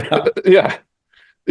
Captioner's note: laugh